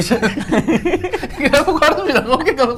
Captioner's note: giggling